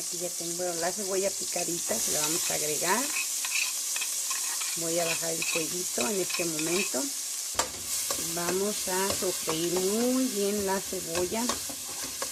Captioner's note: fire